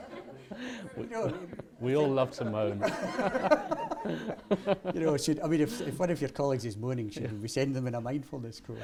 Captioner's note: laughter